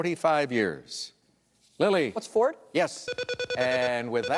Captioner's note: beep beep beep